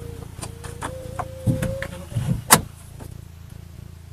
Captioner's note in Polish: dźwięk zamykanej szyby